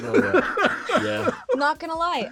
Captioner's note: laughing